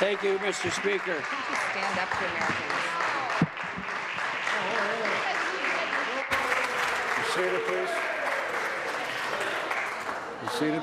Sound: applause

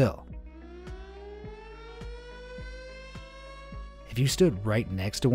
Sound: siren blaring

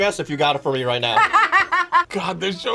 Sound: laughs

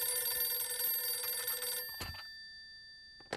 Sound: phone ringing

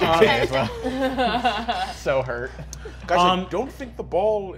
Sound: laughing

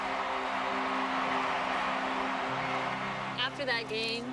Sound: cheering

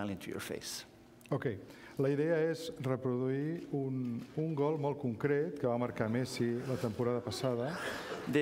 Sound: speaking catalan

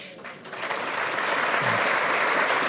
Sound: applause

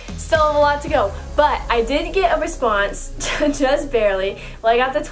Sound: laughs

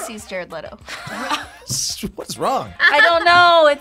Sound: both laugh; laughs

